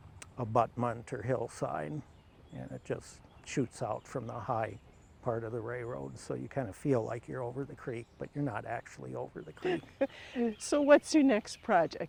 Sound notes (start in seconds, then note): 9.6 laughs